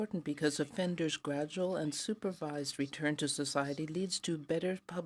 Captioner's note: speaking French